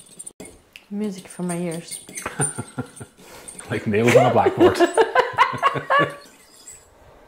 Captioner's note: laughing